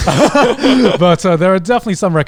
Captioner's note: guys laugh